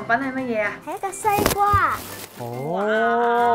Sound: paper rustling

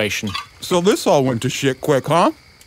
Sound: through full mouth

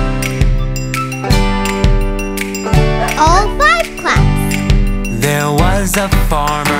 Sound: Bingo barks

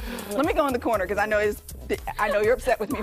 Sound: laughter

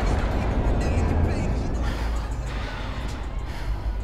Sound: wind rushing

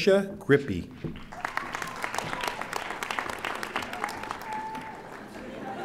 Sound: audience applauding; audience laughing

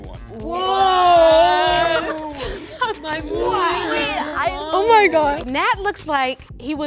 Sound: women all exclaiming and laughing

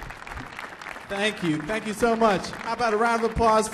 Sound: applause

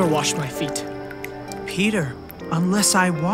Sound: water sloshes

